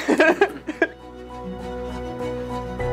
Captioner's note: chuckles; upbeat music